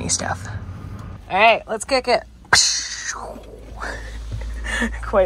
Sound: chuckles

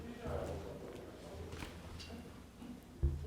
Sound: murmuring

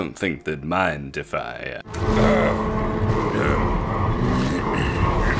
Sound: gyrocopter noises

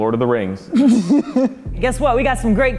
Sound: laugh

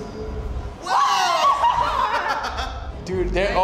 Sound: both scream

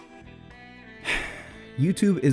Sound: sigh

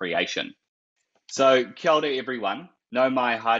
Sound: speaking Maori

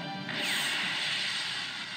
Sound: missile Swish

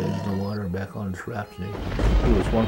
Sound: thunder

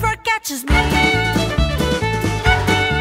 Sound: clap clap

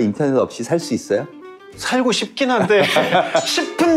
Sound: laughter

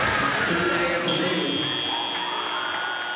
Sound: cheering; buzzer; cheering

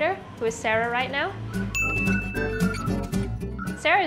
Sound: ding

